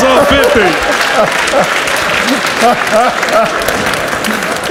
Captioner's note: laughs